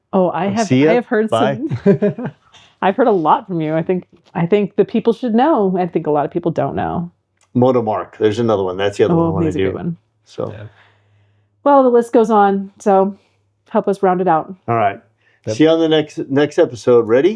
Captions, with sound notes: Oh, I have heard some. See ya, bye. (laughing) I've heard a lot from you. I think the people should know. and I think a lot of people don't know. Moto Mark, there's another one. That's the other one I wanna do. Well, the list goes on, so help us round it out. All right, see you on the next episode, ready?